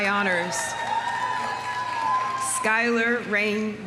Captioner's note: audience cheering; audience applauding